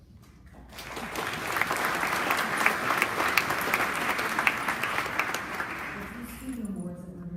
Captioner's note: applause